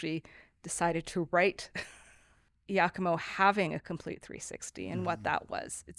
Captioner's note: laughs